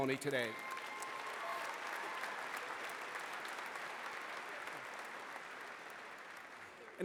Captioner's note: applause